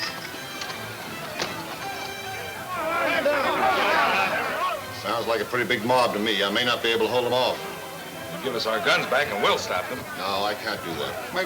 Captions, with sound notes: (men yelling simultaneously) - Sounds like a pretty big mob to me. I may not be able to hold 'em off. - Give us our guns back and we'll stop them. - No, I can't do that. - Maybe you don't want to stop 'em.